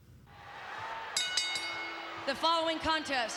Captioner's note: ring bell dinging